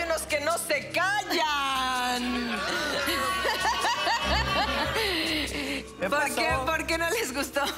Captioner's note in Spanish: Risas